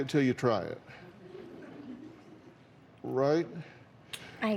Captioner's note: scattered laughter